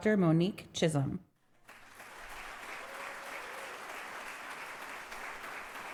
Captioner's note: crowd applauds